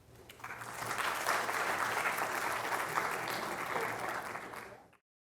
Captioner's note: applause